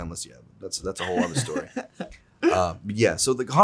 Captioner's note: Zack laughs